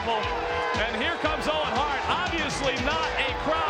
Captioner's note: audience jeers